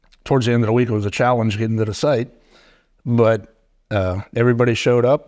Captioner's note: none